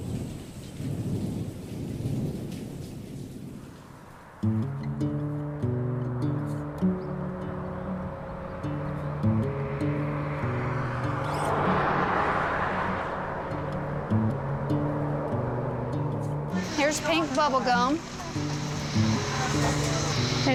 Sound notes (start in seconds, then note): 0.0 thunder rumbling; 4.5 soft acoustic guitar music; 11.0 vehicles whooshing